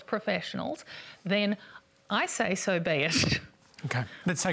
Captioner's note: laughs